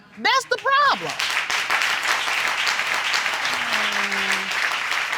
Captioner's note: applause